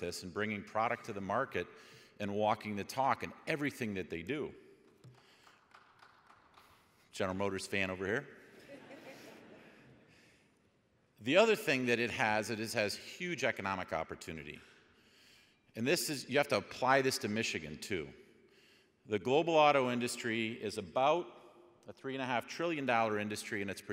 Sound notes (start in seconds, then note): 5.4 audience clapping; 8.6 audience laughing